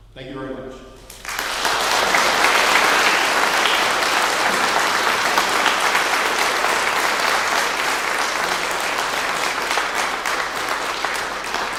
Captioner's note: clapping